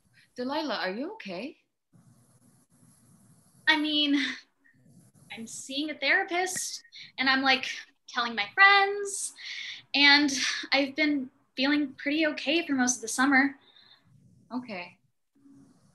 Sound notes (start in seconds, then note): none